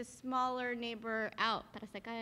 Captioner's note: speaking in Spanish